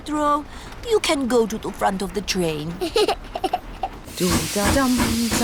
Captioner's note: giggles